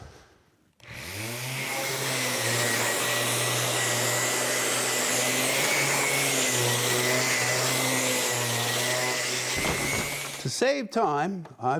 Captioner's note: sander whirs